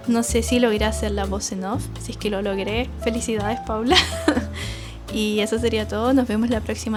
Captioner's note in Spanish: risas